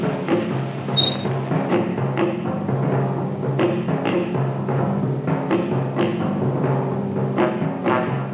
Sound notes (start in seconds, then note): 0.9 gate squeaks